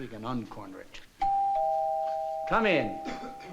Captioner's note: doorbell